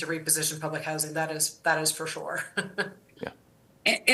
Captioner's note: laughter